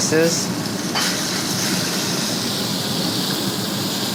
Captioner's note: ribs sizzling